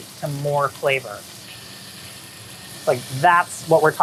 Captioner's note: meat sizzling